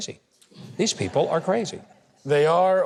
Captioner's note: audience laughs